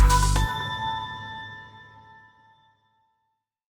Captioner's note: chime dings